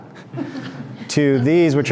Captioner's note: group laughs